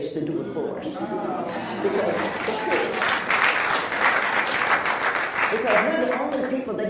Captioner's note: applauds